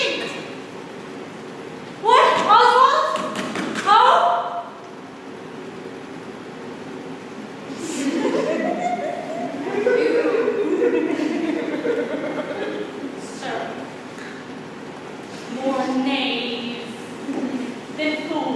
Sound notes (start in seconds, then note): 10.4 scattered laughter